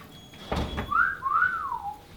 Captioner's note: door closing; whistling